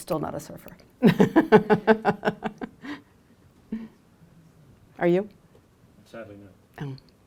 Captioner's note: laughs